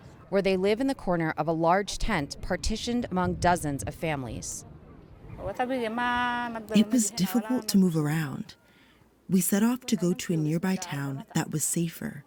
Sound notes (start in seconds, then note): 6.5 through translator